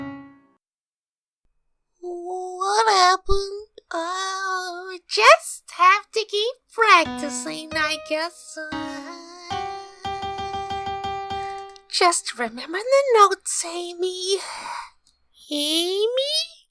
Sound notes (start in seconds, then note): 8.9 embarrassed laugh